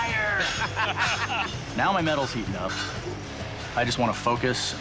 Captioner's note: laughter